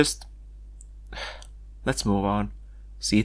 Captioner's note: sigh